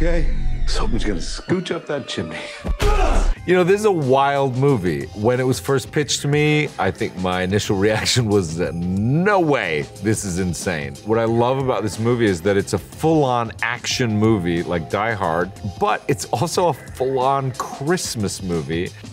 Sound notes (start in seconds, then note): 3.1 grunting